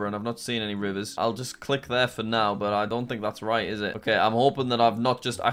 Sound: none

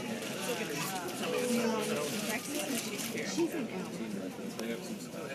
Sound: people talking, airport noises

